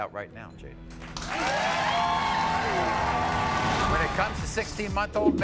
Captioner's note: applauding